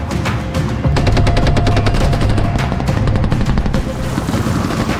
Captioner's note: guns firing